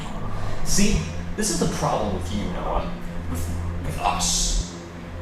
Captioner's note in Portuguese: exasperado